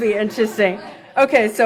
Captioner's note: laughs